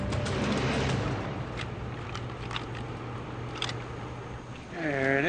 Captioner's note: stick rustling